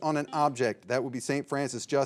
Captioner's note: signal beeps